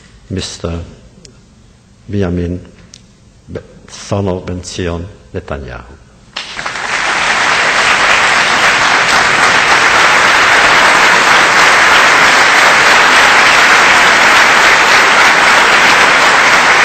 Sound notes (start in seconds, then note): 6.3 audience whistles and applause